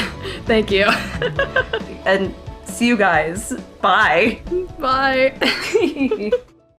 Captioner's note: both laugh